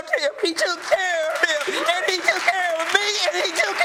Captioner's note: audience applauding